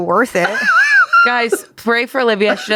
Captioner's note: laughs